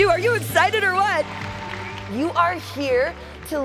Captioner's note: audience cheering